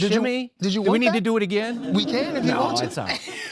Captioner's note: audience laughing